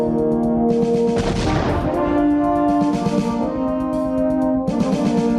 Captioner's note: rockets exploding